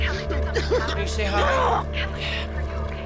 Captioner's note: grunts